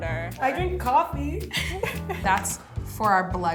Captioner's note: laughs